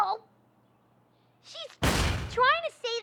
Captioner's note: thud!